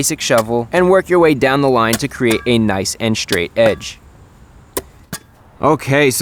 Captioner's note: more dirt digging noises